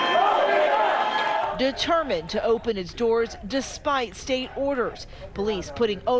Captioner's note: crowd chanting